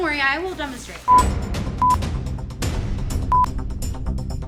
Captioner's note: four beeps